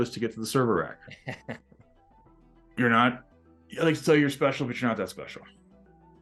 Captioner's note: laughs